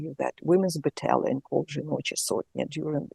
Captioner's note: speaks foreign language